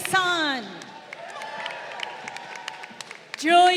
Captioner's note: crowd cheering